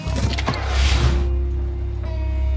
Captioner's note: engine starts